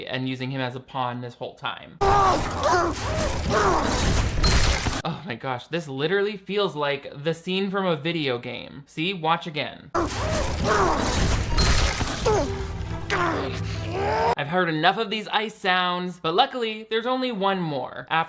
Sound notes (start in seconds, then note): 2.0 Riley screams; 10.0 Riley screams; 10.9 electronic music